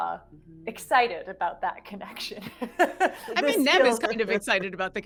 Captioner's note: person laughing